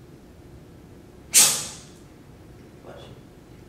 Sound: sneezes

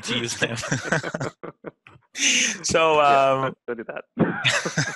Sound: both presenters laughing

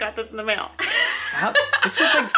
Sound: laughs

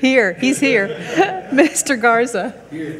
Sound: everyone laughing

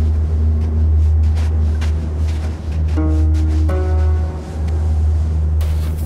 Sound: More footsteps. Boba is walking FOREVER

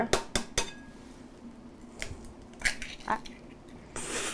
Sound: egg cracking

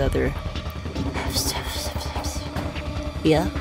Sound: whispers

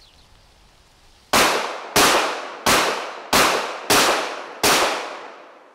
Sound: gunshots blasting

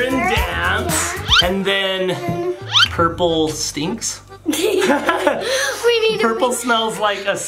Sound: laughs

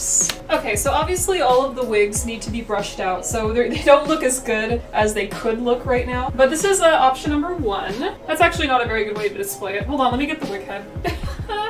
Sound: laughs

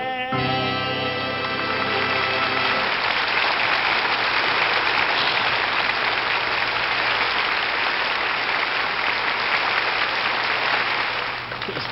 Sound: audience applauding

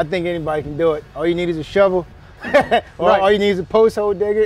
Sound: laughs

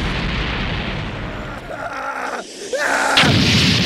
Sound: MR. SATAN screams some more

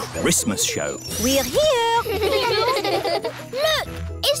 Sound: children giggling

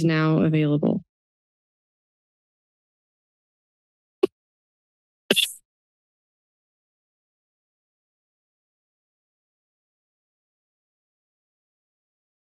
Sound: silence

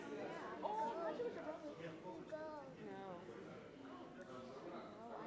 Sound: audience chattering

